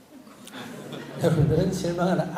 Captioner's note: audience Laughter